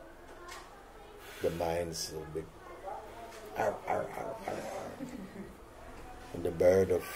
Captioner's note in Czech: zvuky štěkání